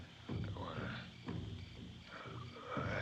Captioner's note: murmuring